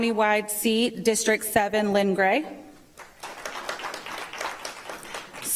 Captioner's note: applause